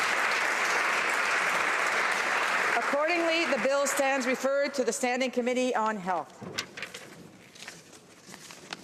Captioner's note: applause